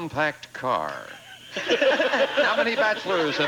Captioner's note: audience laughing